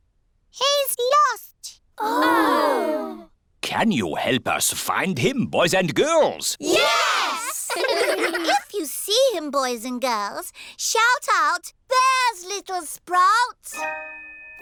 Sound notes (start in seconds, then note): 7.3 giggling